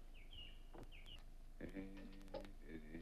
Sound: Beppe hums

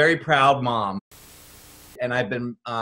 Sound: static hisses

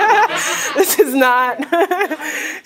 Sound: laughter

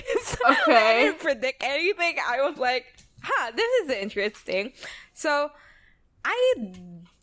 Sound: laughs

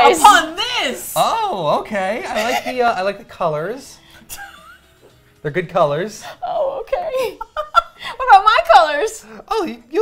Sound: laugh

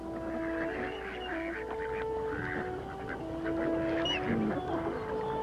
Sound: duck sounds

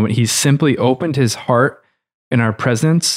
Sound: none

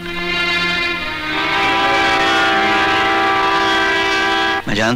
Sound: train horn blares

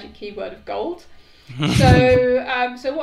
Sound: laughing

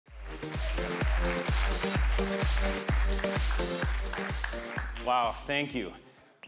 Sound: bright music; attendees applauding

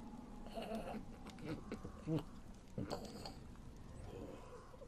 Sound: gurgling, Dying sounds

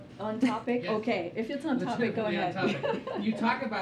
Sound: laughs

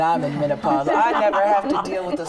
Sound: group laughing

